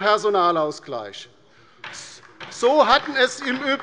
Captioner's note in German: Beifall bei der LINKEN